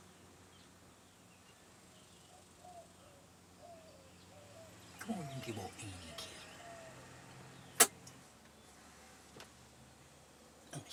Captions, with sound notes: Come on, give ol' Annie a kiss. [lips smack]